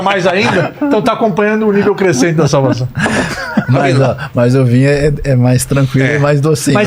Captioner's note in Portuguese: risadas